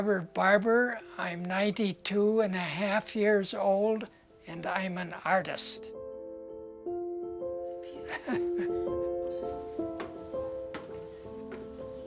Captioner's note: laugh